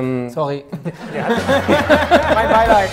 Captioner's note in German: Gelächter